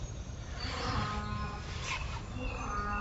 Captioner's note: cow mooing